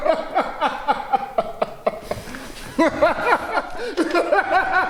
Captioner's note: Faizan laughing